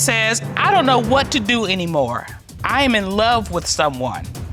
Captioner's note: judge dana reading